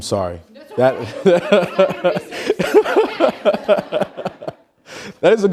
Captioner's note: laughing